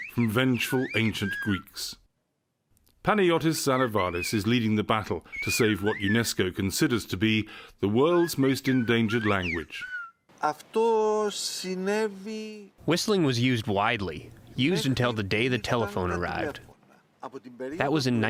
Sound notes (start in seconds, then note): 11.5 through translator